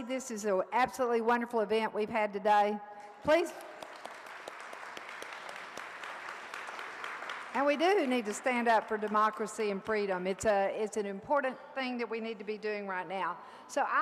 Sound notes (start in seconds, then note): 3.7 audience applauds